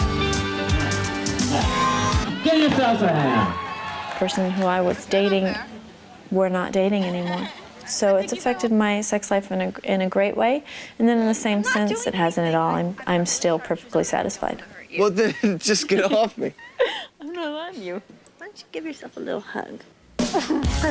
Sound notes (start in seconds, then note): 3.4 crowd cheers; 15.0 laughs; 20.7 rock music begins